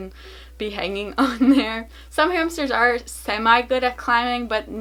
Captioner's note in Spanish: ríe